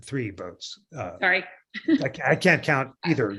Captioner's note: laughter